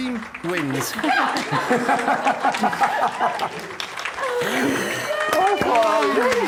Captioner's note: laughing